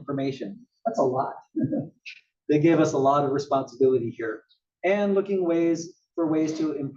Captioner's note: laugh